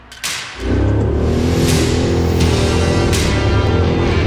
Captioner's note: engine revs